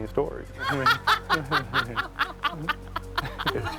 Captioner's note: all laughing